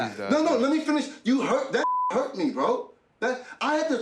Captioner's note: beep